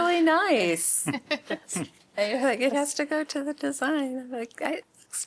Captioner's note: laughter